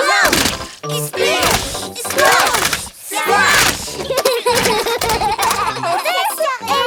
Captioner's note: laughs